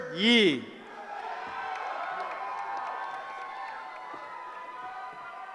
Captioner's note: cheering